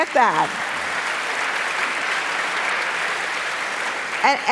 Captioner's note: applause